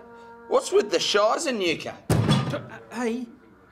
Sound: kicks microwave

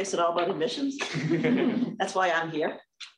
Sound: laughter

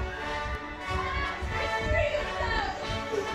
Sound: shouting

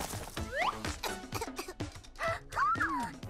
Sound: coughing; Shelly gasps

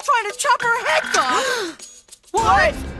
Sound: gasps

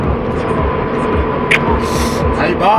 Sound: sniff

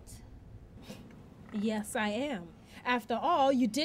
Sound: scoffs

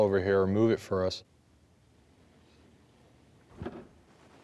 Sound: rustling

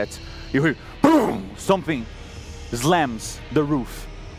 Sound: pow

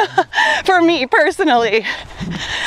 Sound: laughs

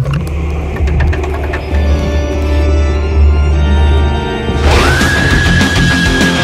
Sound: door opens and heavy breathing; upbeat music

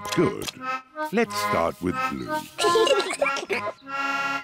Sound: both giggle

